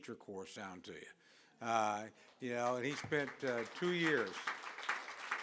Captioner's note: applause